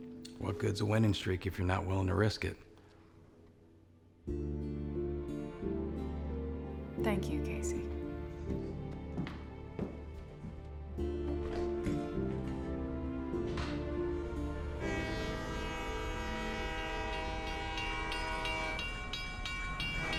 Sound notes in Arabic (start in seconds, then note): 13.2 يغلق الباب; 14.2 بوق القطار